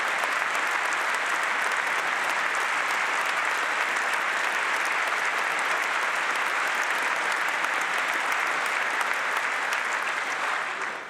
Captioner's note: applause